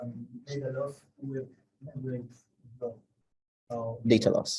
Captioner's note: faintly speaks